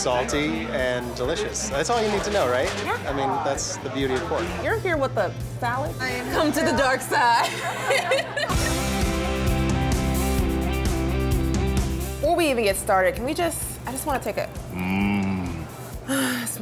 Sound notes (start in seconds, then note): 7.2 laughing; 8.0 smooth rock music